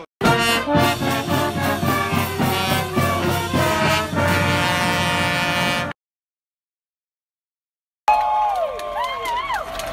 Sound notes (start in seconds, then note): 0.2 upbeat band music; 8.1 students cheering